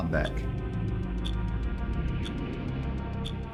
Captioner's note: clock ticking